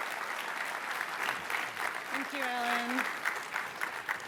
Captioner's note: applause